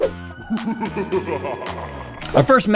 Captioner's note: foreboding laughter